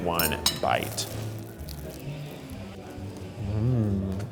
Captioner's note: toast crunches